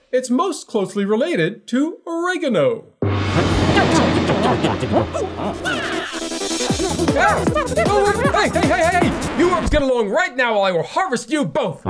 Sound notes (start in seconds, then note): 2.9 plants mumbling angrily